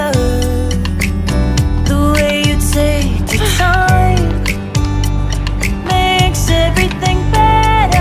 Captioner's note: on the way home after finishing... I sigh reflexively